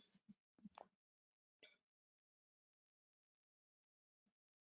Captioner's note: silence